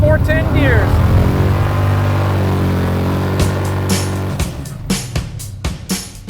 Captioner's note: badass Burnout Noises